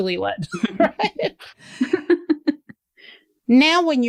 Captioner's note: laughter